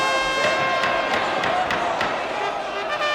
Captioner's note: gavel banging